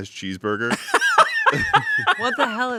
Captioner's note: laughs